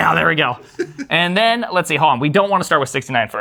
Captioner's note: laugh